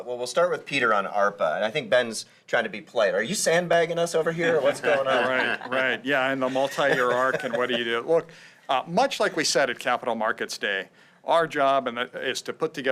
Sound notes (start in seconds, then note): 4.4 laughter